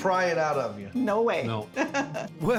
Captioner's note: laughing